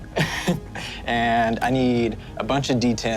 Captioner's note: laughs